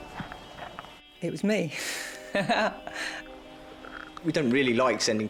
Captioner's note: laughs